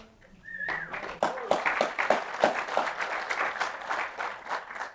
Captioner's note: applause